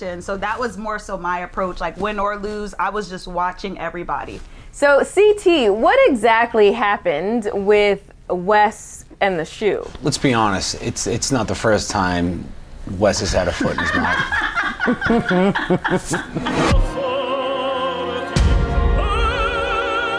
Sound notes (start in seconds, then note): 13.5 laughter; 16.4 orchestral music